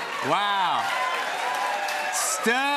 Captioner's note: cheers and applause